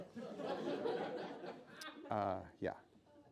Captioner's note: laughing